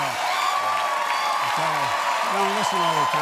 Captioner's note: cheers and applause